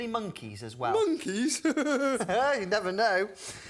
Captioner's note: giggles